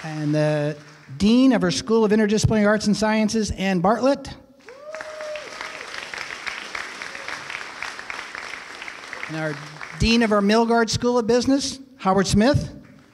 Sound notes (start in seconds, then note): 0.0 applause; 4.6 applause